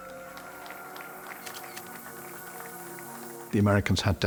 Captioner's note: applause